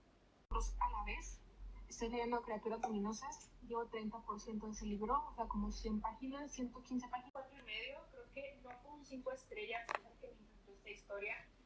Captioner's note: background audio from YouTube videos